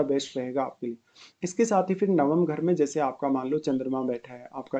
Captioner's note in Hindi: नाक से की जाने वाली आवाज़